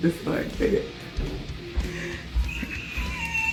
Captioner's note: squeals